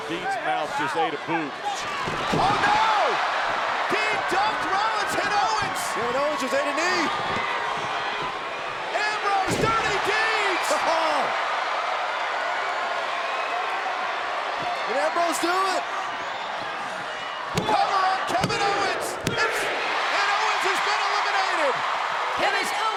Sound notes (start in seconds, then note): 3.3 crowd cheers; 11.1 JBL exclaims; 11.1 crowd cheers